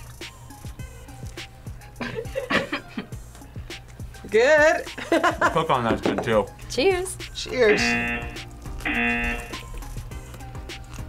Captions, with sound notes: (group laughs) Good? (laughs) - The pickle on that's good too. - Cheers! - Cheers! (buzzer)